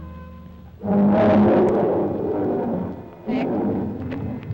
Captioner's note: animal bellowing